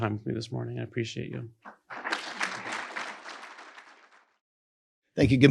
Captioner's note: attendees applaud